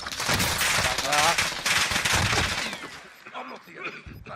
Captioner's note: weapons firing